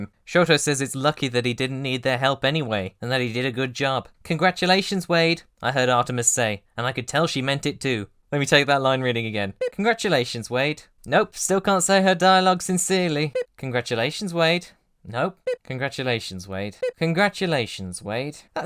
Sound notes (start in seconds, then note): 9.6 bip!; 15.4 bip!; 16.8 bip!